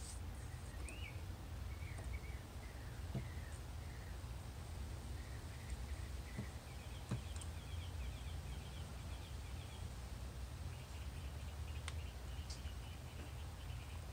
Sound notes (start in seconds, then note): 0.0 wind, birds, and paint brush strokes; 0.0 wind and birds chirping